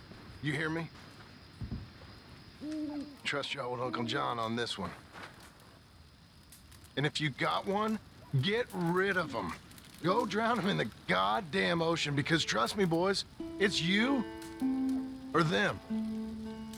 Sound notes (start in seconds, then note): none